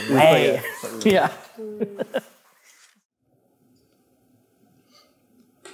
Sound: laughs

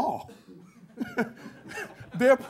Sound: half-chuckle

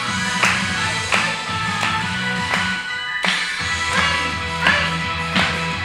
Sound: upbeat music; clapping

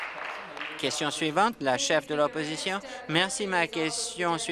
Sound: applause

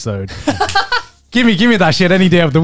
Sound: chuckling

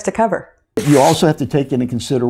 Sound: paper rips

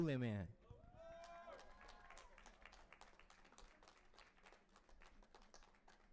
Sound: audience applauding and cheering

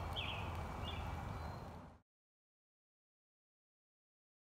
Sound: birds chirping

